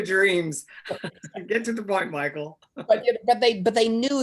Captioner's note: laughs